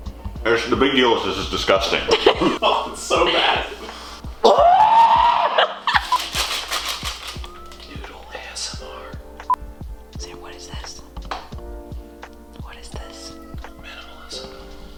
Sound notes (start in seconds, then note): 4.4 screaming